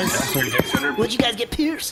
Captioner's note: footsteps, door jingles